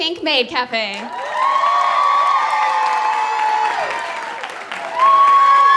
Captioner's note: applause